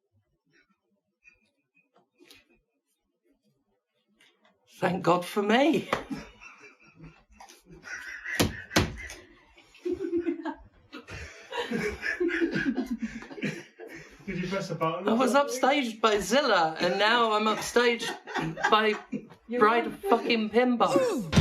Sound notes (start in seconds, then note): 6.1 laughter off screen